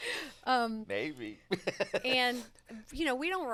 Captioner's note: laughs